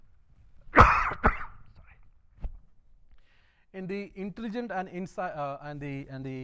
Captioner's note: coughing